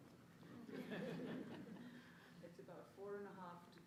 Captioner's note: audience laughs